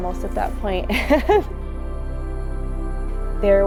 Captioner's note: laughs softly